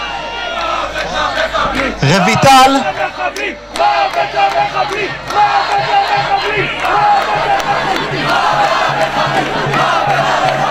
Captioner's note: crowd: Death to the terrorists